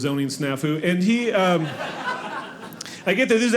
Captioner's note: audience laughing